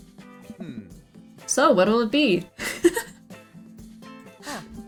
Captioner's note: laughs